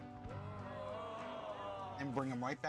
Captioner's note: oohs and ahhs